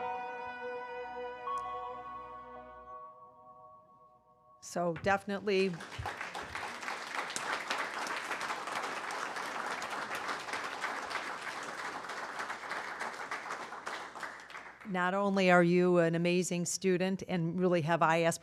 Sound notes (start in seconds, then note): 5.0 applause